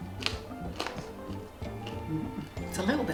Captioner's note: crunch